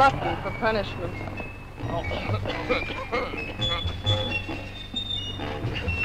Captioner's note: General Tostada coughing